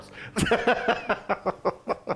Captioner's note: laugh